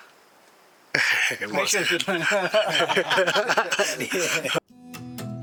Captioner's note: joyous laughter